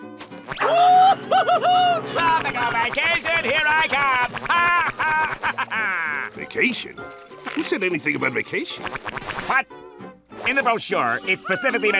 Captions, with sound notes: Whoo hoo hoo! Tropical vacation, here I come! [laughing] Vacation? Who said anything about vacation? What? In the brochure it specifically mentions